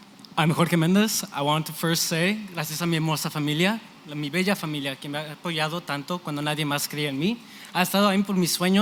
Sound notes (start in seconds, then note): 2.6 spanish